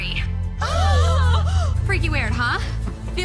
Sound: horrified gasps

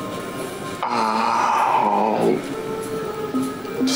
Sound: grunts

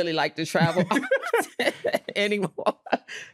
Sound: all laughing

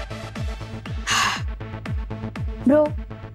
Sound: sighs

